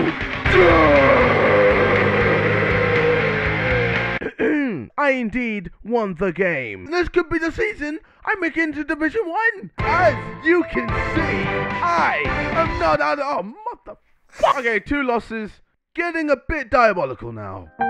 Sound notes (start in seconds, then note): 0.3 metal voice; 4.2 clears throat